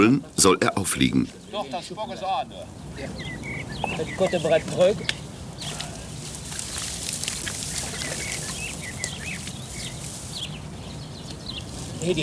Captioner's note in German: Arbeitsgeräusche und -gespräch